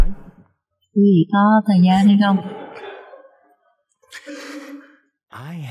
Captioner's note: laughter